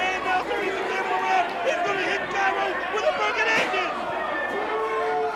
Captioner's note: crowd cheering